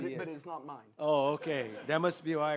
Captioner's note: audience laughs